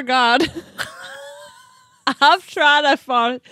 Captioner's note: laughing